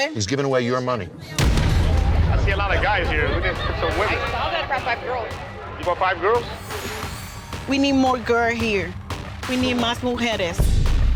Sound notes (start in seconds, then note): 9.8 speaking Spanish